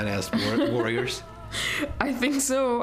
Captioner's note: laughter